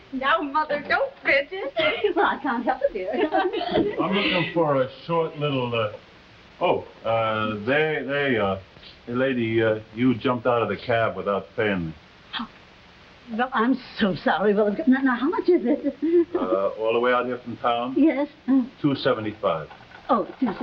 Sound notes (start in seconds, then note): 3.6 Veta and Myrtle laughing; 20.4 Veta nervously chuckling